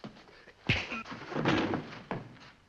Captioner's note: thump